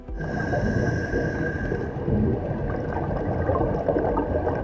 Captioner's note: breathing